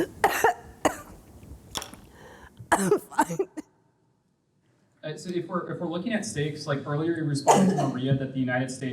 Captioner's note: coughing